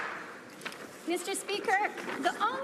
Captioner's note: some Applause